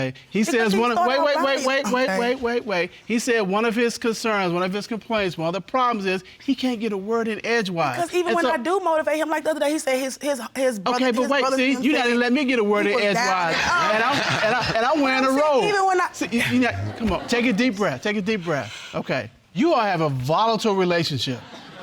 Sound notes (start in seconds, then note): 18.5 inhales